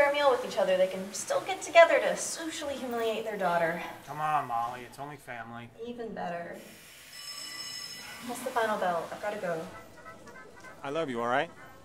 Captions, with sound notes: they can still come together to socially humiliate their daughter. Come on Molly, it's only family. Even better. [Bell rings] That's the final bell. I've gotta go. I love you, alright.